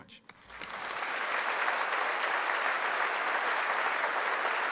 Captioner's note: audience applauding